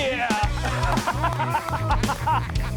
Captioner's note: laughing